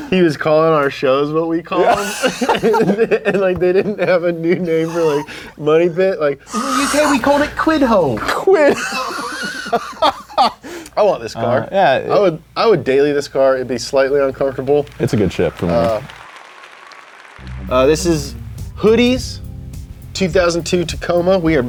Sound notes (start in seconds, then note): 1.8 laugh; 8.3 laughs; 14.6 virtual audience applauds